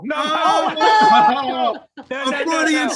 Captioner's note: laughing